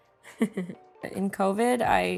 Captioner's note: chuckles